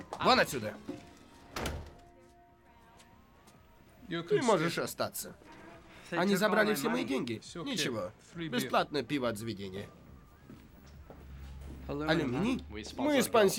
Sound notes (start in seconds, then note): 0.8 door close; 2.9 Russian accent